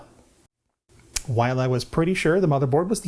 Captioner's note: lip smack